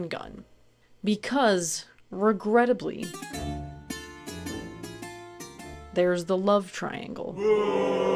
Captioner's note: boooo everyone booed